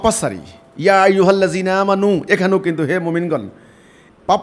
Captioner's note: Arabic